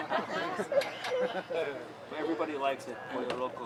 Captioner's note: laughter